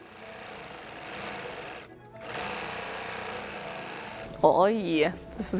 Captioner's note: sewing machine buzzing